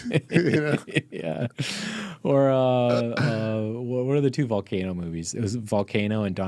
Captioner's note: laughing